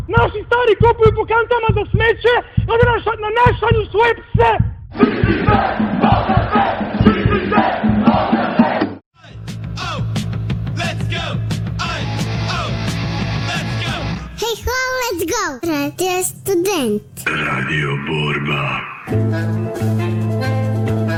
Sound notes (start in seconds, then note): 5.0 protest chant